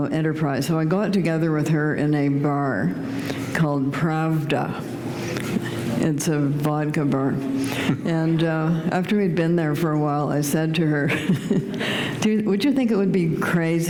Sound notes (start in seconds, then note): 11.1 chuckle